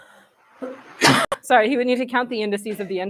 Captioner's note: coughs